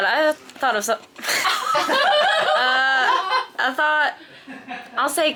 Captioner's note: group laughing